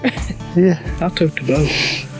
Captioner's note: laughs